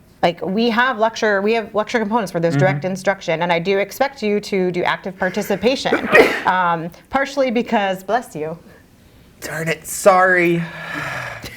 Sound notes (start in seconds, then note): 5.3 sneezes